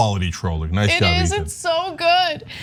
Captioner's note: laugh